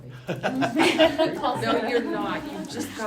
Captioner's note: laughing